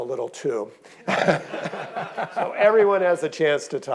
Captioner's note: audience laughing